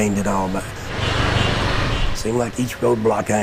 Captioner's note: honking